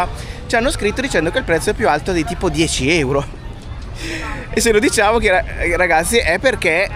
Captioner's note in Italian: risate